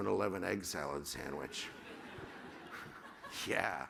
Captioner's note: laughter